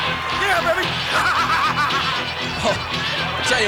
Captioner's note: chuckling